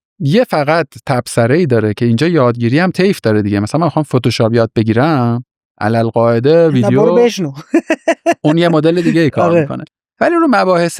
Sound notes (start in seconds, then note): 7.6 laughs